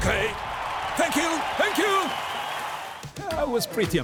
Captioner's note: crowd cheering